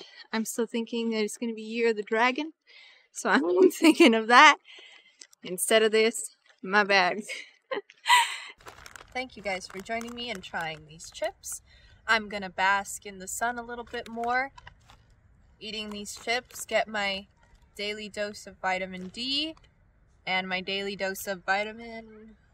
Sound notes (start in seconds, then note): 3.1 laughs